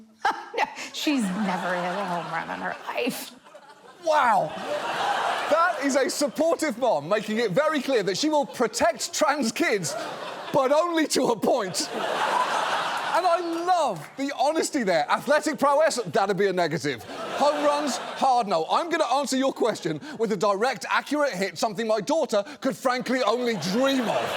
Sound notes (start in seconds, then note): 1.0 laughs; 4.3 studio audience laughs; 11.9 studio audience laughs